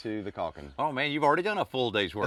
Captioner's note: laughs